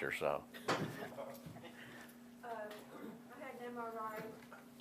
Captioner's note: laughing